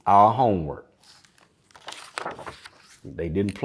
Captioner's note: pages rustling